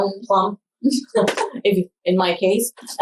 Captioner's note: laughs